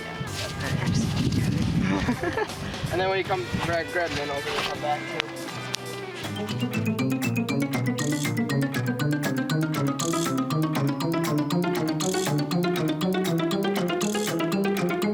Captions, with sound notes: Yeah go grab the pliers. (giggles) - And then when you come, grab a minnow when you come back too. (upbeat music)